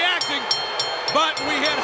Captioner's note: bell rings